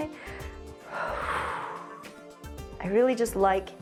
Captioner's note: exhales